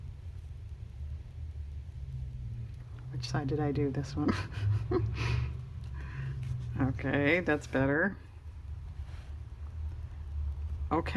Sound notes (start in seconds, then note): 4.2 laughs